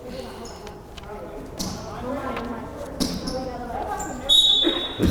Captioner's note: crowd chattering; whistle blowing